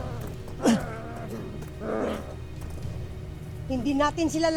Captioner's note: grunts; guttural roar